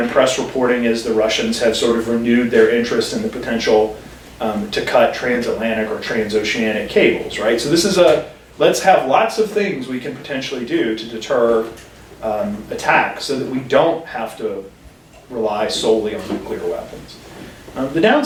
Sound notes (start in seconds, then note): none